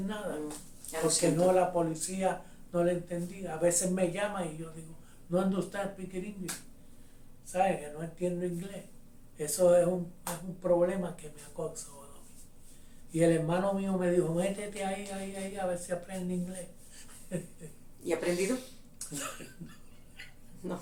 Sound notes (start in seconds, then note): 6.1 speaks in ENGLISH